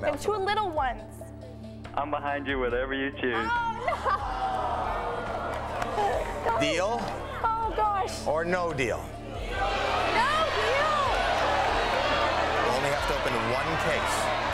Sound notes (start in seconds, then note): 9.1 crowd chants